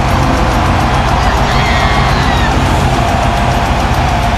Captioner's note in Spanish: Ovación